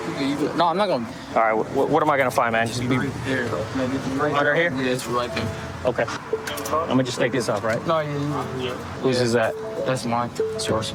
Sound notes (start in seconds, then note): 5.3 handcuff click